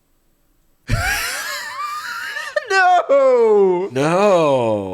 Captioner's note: laughing